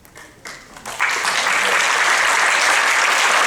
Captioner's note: applause